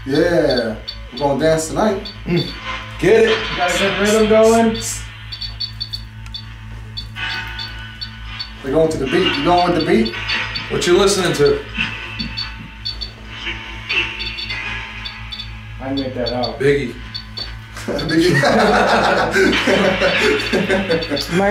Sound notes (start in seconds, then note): 6.0 device beeping; 6.0 radio noise hissing; 13.3 radio noise hissing continues; 17.8 group laughing